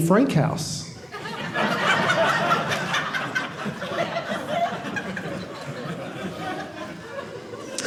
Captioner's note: audience laughing